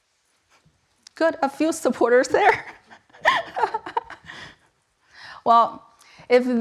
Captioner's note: chuckles